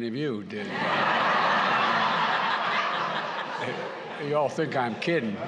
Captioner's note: laughter